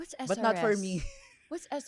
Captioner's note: laughs